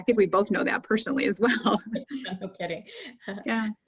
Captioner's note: laughing